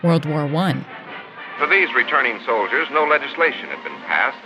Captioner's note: soundbite of archived recording